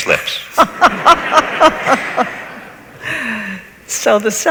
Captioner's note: laughs